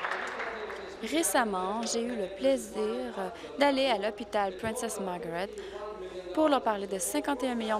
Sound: applause

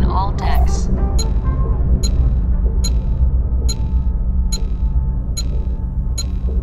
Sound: datapad beeps

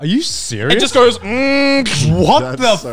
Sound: mimicking machine

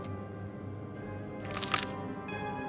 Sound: flipping page

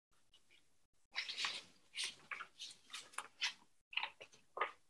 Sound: papers rustling

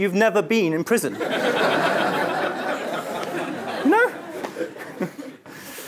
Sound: laugh

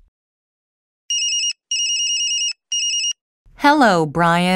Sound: cell phone rings

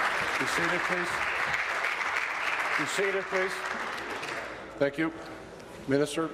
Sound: applause

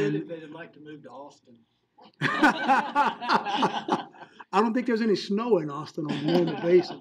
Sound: laughing; laughing

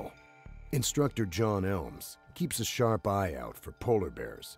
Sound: voiceover

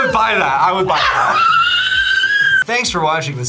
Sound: screams

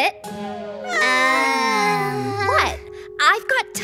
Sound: group groans

